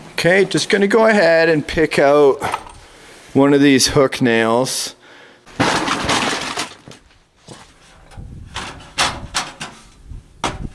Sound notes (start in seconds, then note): 5.5 ladder thuds